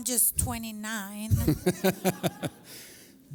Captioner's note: laughter